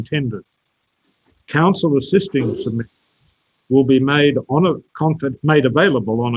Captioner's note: audio distorted